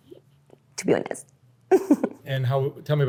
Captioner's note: laughs